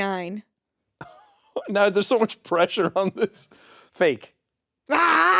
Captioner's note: chuckles